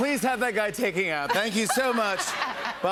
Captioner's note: laughter